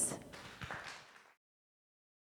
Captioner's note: audience applauding